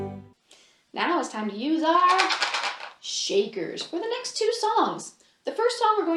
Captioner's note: rattles